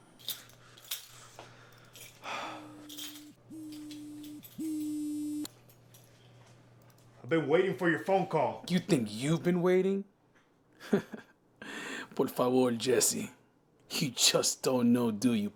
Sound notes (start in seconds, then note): 2.6 phone buzzing; 10.8 laughter; 11.6 Spanish